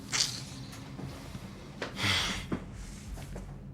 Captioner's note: Tyrone scoffing